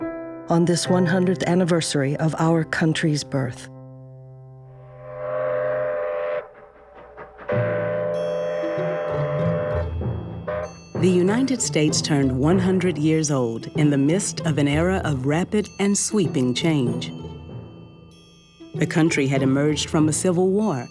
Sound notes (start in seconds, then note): 4.8 train Whistle Blowing